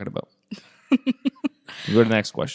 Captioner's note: laughs